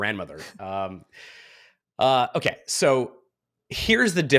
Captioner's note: chuckles